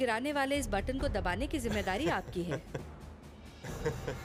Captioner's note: laughter